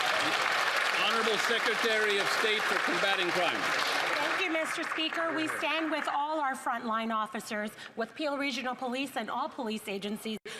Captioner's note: applause